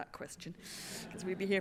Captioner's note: laughter